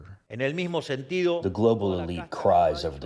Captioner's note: through translator